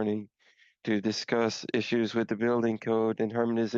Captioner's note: speaking French